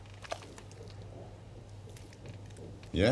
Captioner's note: heart beat sound